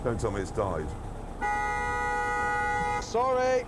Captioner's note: car horn blares